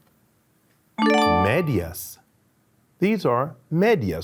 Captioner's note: upbeat tone chimes